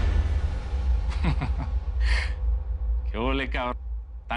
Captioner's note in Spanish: Ríe